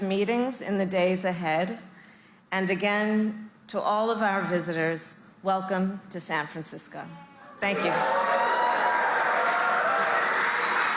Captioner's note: applause